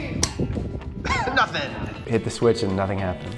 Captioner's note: switch clicks